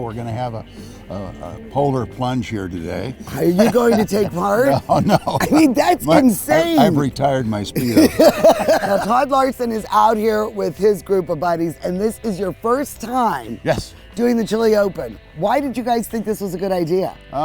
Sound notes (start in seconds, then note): 3.2 laughs